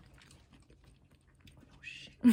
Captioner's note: silence